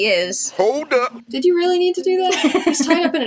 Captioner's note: laugh